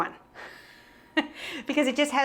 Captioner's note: laughs